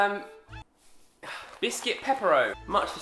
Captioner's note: music stops